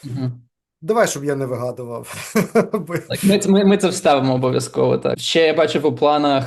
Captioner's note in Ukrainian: сміється